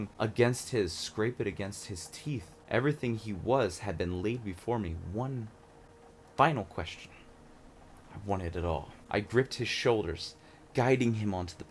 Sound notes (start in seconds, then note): none